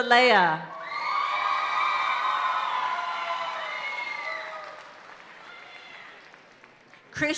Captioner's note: audience cheering and applauding continues